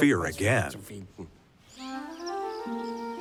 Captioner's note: birdsong; cheerful yet subdued music